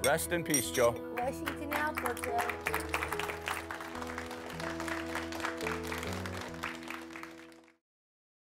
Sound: applause

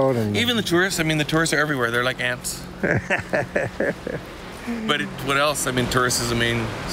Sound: laughter

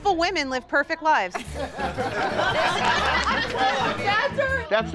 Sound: laughter

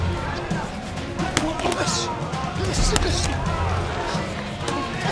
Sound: grunts

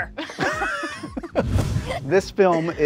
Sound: all laughing

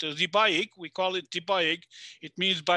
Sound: speaking foreign language

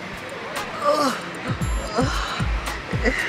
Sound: groans

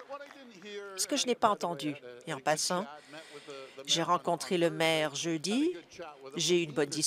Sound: applause

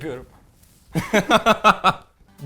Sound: laughs

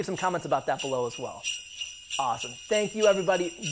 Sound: bells jingling

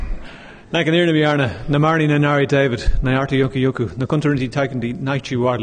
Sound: speaking in foreign language

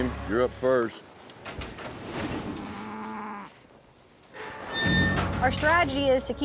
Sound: cow moos

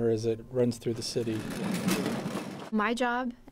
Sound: sound of cart rolling on concrete

